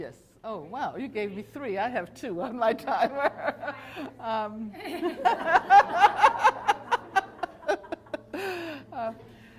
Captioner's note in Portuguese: risos